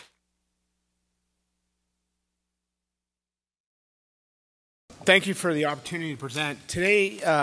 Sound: applause

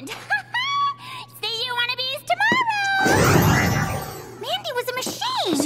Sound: evil laugh

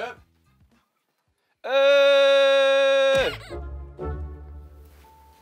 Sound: laughing carelessly

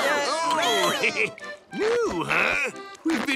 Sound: chuckles

